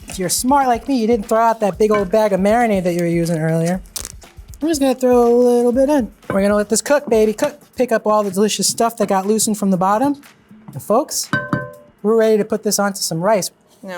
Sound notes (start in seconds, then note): 11.2 pan clanking